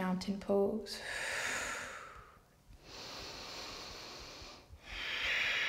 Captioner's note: deep breaths in and out